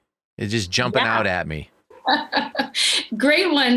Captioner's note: laughing